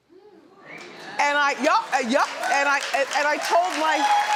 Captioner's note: audience cheers